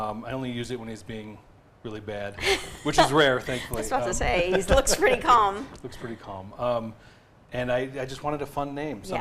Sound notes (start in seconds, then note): 3.5 laughs